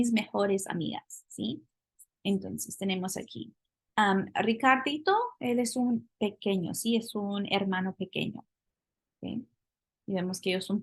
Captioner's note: spanish; speaking spanish